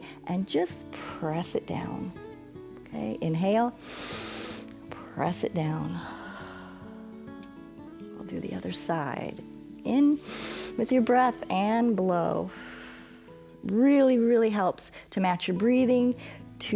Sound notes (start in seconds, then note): 3.8 inhales; 6.4 exhales; 10.2 exhales